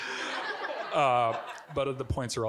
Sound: audience giggling

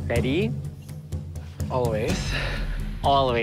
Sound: exhales loudly

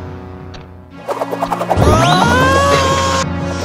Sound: spinning, impact, screaming

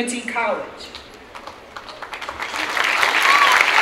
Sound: clapping

